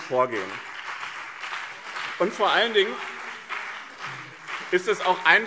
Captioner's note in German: Beifall BÜNDNIS 90/DIE GRÜNEN und CDU